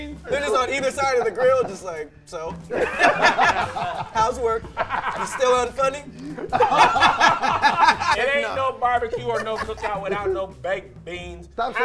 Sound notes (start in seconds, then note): 0.2 laughing; 4.4 laughing